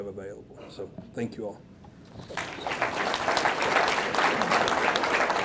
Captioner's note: audience clapping